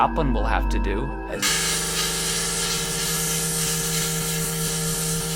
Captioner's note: buzzing noise